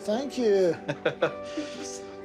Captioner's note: laughing